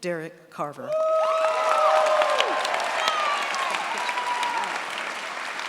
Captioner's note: cheers, applause